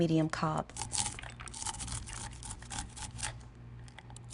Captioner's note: knife scraping against corn